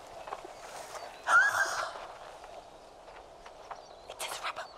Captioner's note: gasps